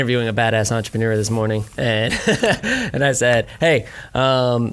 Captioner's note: laughing